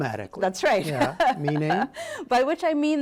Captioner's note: laughter